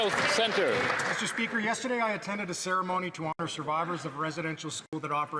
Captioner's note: applause